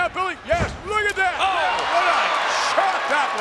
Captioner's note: audience cheers